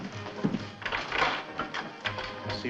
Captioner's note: lock rattling